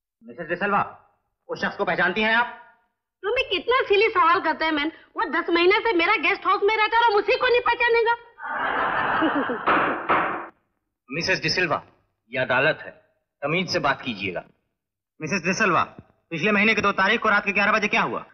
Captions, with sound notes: Mrs D'silva, do you know that man? - What a silly question, man How can I not know a man who has been living in my guest house for 10 months? (Laughs) - (Gavel Banging) This is a court. Please mind your manners What happened at 11 pm on the 2nd of last month?